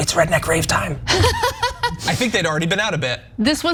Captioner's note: laugh